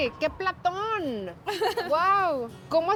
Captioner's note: laughs